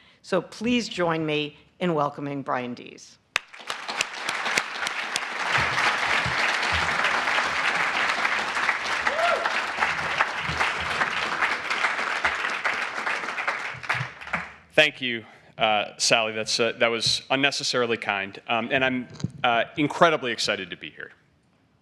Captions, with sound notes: So please join me in welcoming Brian Deese. [APPLAUSE] Thank you, Sally. That was unnecessarily kind. And I'm incredibly excited to be here